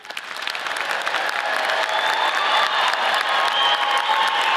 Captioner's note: audience applauds